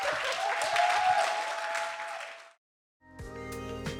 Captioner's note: audience cheering and applauding; mellow music